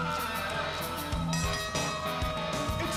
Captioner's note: bell ringing